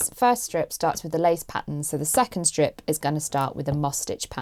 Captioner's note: none